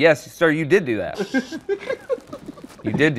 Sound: laughter

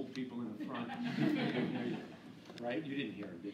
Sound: laughing

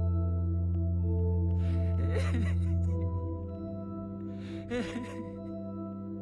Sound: sobbing

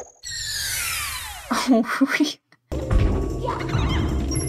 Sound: bemused laughter

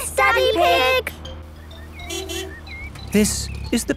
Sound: honking

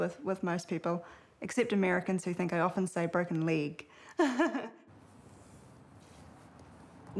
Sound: laughs

